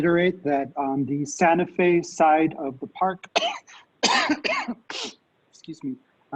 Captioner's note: coughs